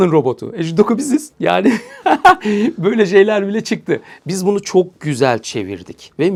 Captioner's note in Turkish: kahkaha